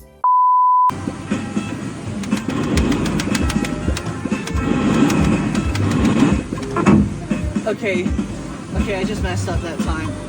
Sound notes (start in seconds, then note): 2.2 button pressing repeatedly; 6.5 smash